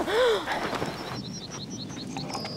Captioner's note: footsteps approaching